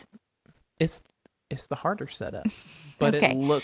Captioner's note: laughs